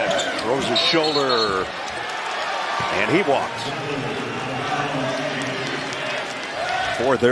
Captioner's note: whistle